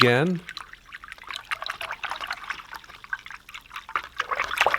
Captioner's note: water sloshing